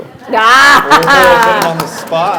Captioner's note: laughter